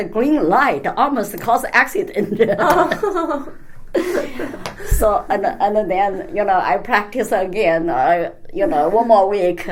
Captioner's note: all laugh